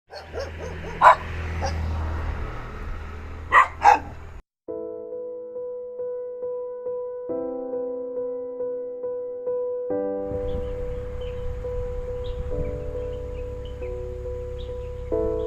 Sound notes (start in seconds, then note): 0.1 doggo barking; 3.4 doggo barking